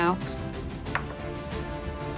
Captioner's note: dice rolling